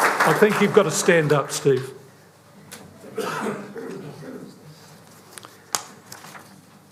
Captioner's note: applause